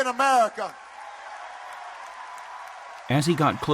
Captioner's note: applause